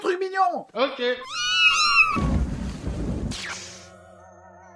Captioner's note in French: miaulements de chatons